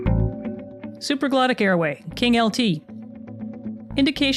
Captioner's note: voiceover